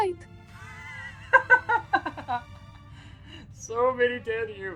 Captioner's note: Pidgy laughing